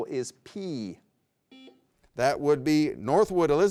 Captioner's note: buzzer beeps